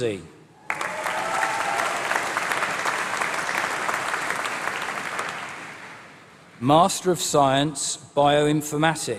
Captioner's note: applause